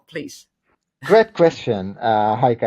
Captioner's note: laughs